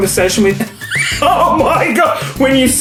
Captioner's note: laughs